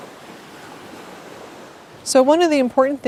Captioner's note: waves crashing